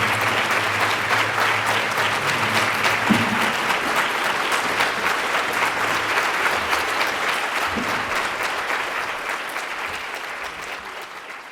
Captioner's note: applause